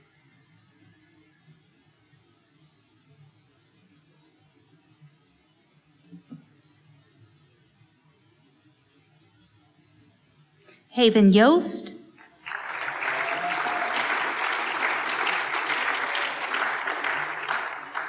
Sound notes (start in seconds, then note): 12.2 applause